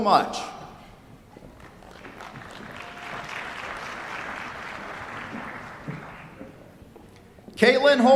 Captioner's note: applause